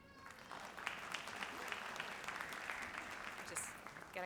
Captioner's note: audience applauds